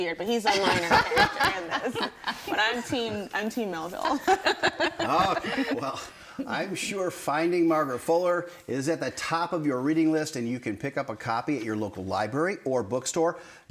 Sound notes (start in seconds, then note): 4.1 everyone laughing